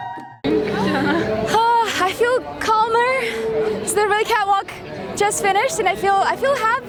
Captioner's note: sighs